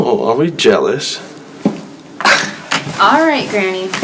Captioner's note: Maya scoffs